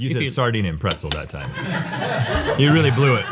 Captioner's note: crew laughing